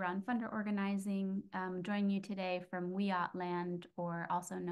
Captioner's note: speaks foreign language